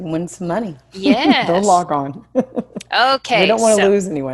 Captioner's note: laughs